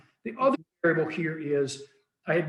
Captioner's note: faintly speaking